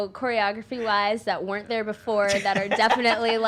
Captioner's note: laughing